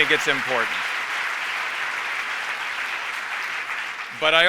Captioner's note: applause